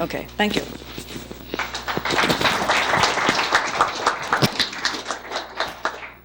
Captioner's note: applause